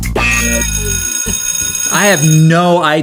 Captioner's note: bell rings